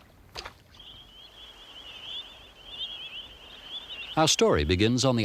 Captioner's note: birds chirping